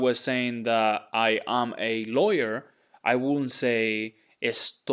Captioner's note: speaking in Spanish